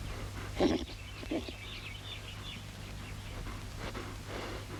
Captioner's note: Diamond whickering